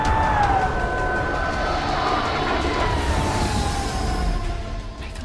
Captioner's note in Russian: кричит полицейская сирена; шум жужжания